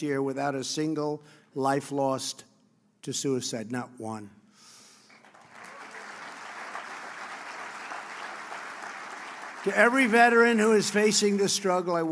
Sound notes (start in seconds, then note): 5.0 applause